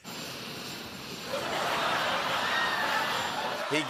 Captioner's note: laughter